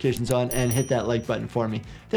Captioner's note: bell ringing